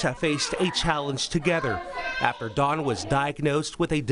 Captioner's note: laughing